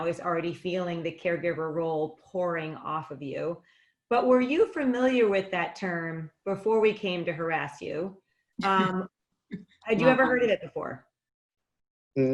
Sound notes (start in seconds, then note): 8.7 laughing